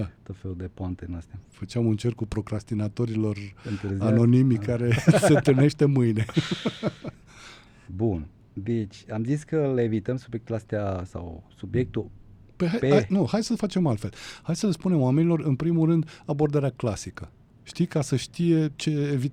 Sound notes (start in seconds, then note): 6.1 laughter